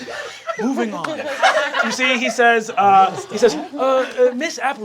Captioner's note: cast laughing